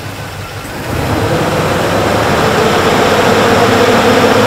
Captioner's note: engine revs